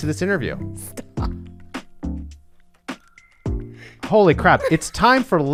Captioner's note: laughs